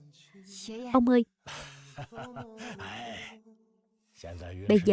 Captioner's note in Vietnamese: tiếng cười